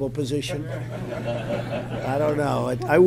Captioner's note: laughter